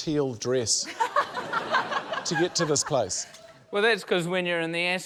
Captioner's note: laughter